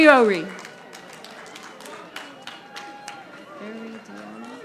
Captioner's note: audience applauding